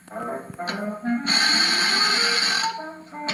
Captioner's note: whirring